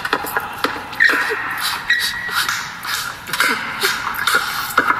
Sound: clapping and shoe squeaking

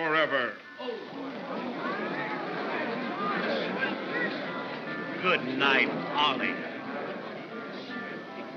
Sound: concerned crowd noises

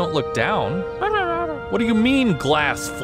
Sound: mumbles a response

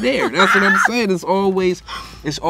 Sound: laughs

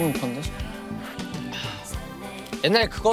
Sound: exclaiming

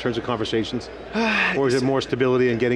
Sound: sighs

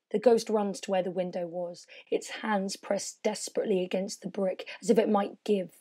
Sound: none

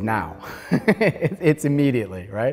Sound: laughs

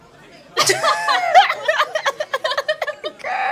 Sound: laughter

